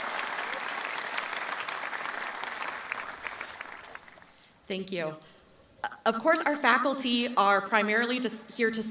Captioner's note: cheering and applause